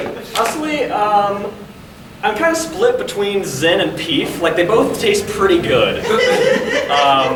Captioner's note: audience laughing; audience laughing